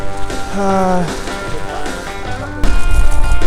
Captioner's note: French speaking